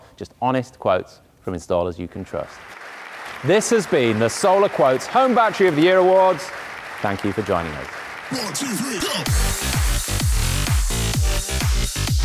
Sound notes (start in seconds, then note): 2.6 audience applauding; 8.2 upbeat electronic music